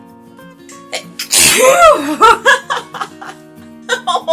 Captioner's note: even larger cartoonish sneeze